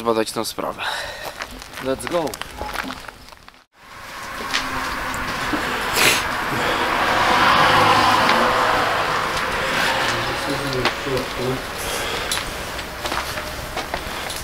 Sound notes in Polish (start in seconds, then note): 3.7 w tle odgłosy samochodów